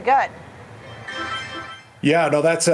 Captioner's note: bell ringing